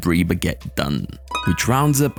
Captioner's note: bells ring